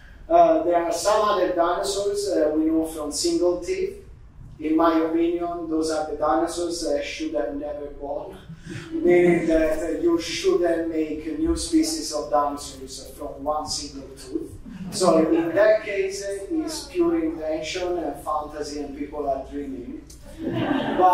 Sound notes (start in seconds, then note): 8.5 audience giggling; 14.6 audience giggling; 20.3 audience laughing